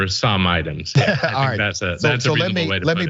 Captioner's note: laugh